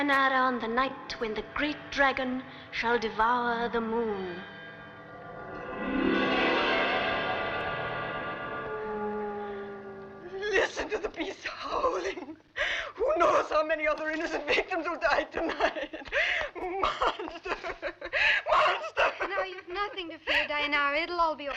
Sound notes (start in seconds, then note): 4.8 dramatic orchestral music; 7.9 wolf howling